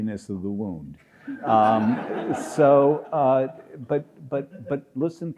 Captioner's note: audience applauds